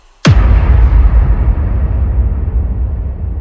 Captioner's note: boom